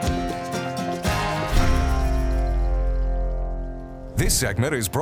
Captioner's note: air whooshing